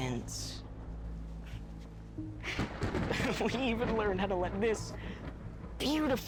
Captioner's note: chuckles